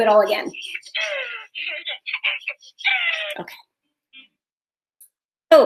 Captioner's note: baby giggling